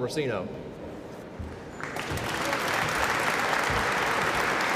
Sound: applause

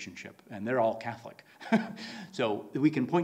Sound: laughs

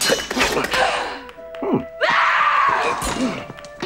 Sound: yells

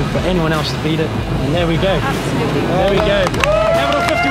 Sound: huge Cheer from the crowd

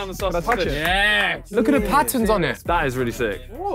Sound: claps

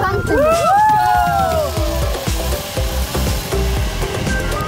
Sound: someone cheering

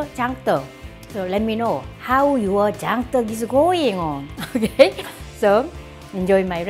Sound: laughs

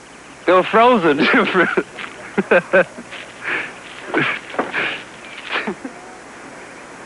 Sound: laughing

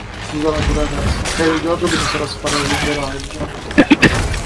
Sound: coughs

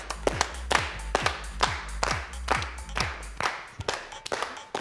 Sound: synchronized clapping

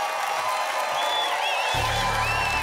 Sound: applause continues

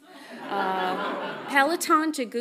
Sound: audience laughs softly

